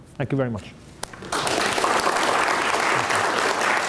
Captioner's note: applause